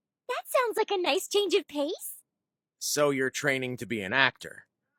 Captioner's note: none